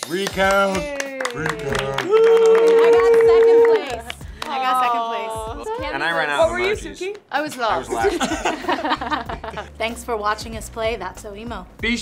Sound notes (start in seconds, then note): 1.9 group clapping and cheering; 7.7 group laughing